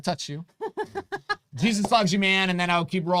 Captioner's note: laughs